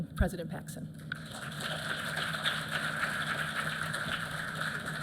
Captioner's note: applause